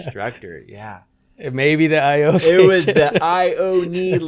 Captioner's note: laughs